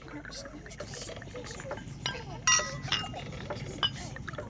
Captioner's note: dishes clank